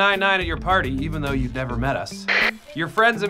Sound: walkie talkie static

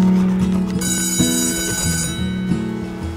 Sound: bell ringing

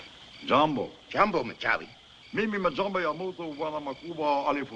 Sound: speaking African Language

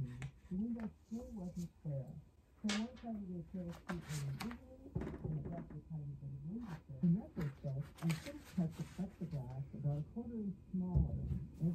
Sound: audio from speaker

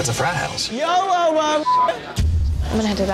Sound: beep

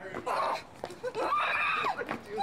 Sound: grunting

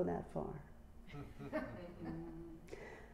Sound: laughter

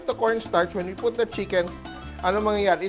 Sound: sizzle

